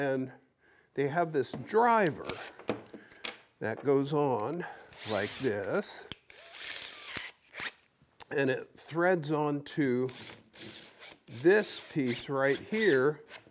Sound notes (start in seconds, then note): 6.3 drill whirring